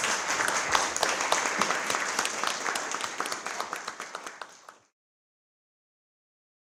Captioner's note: applause